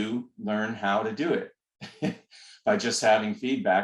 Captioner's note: laughter